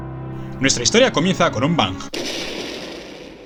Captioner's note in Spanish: bang